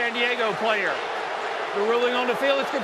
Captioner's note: booing